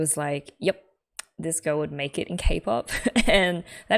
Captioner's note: laughs